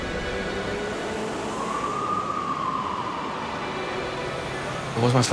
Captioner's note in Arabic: صافرات إنذار سيارات الشرطة